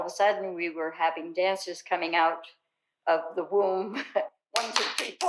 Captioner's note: chuckles